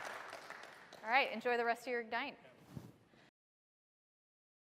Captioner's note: applause